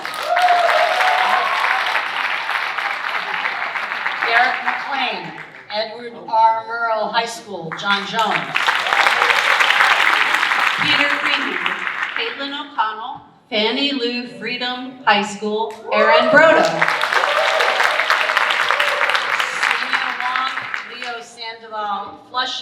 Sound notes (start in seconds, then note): 0.0 audience cheering and applauding; 7.7 audience applauding; 15.9 audience cheering and applauding